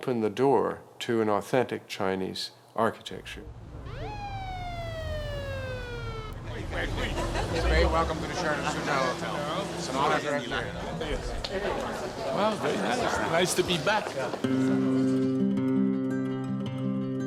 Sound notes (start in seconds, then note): 3.1 siren wailing